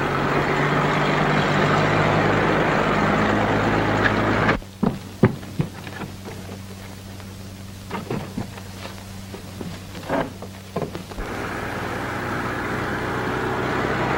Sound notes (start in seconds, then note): none